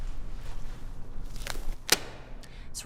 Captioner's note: glove snapping